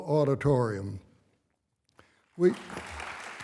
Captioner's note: applause